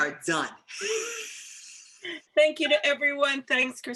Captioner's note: laughter